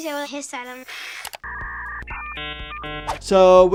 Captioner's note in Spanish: ruido de interferencia de señal